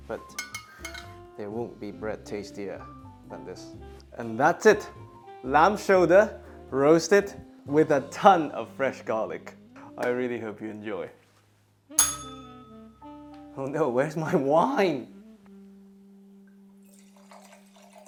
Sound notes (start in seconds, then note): 12.0 bell rings